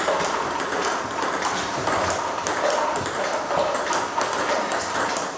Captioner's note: ball ping pong hitting continues